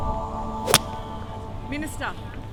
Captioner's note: smacks